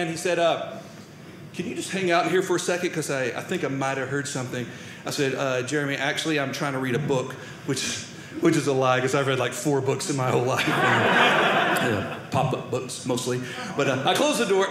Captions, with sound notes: He said, "can you just hang out here "for a second? "Because I think I might have heard "something." I said, Jeremy, actually I'm trying to read a book, which is a lie, because I've read, like, four books in my whole life. (audience laughing) Yeah. Pop-up books, mostly. But I close the door.